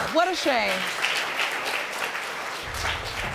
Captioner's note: audience applauding